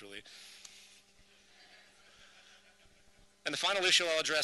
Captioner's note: chuckles from audience